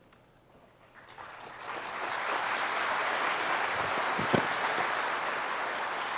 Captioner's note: applause